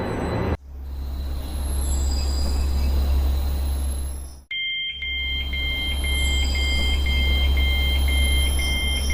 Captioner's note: train braking, doors opening